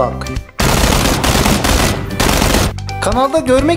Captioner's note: fire sounds!